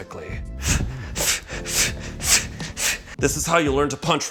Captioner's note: breathing rapidly